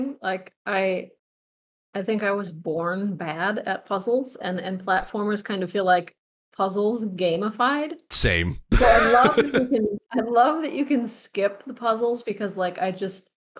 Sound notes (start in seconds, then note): 8.2 laughs